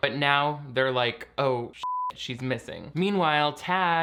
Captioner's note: beep